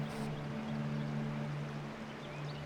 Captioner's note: water running